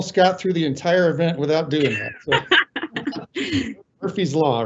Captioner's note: laughing